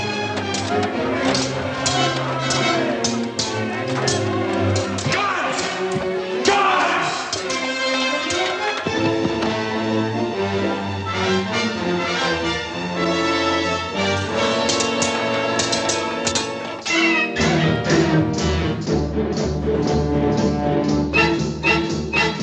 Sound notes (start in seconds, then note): 14.3 swords clanking; 18.6 dramatic mysterious music